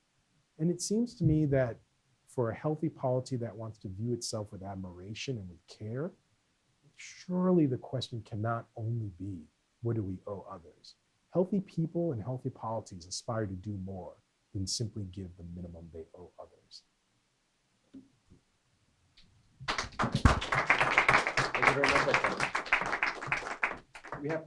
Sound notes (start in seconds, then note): 19.6 applause